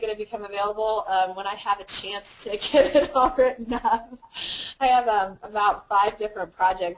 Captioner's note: laugh